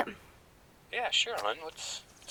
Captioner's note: twig cracks